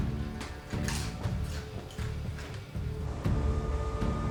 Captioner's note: crunching chips